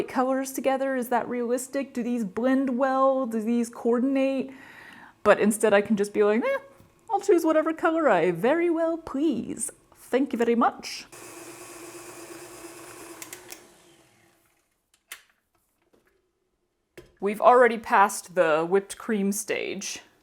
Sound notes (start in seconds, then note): 11.0 whirring sound, several clicks, silence, thud